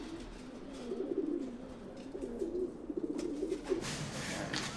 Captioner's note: pigeon cooing